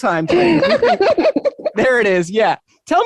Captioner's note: chuckles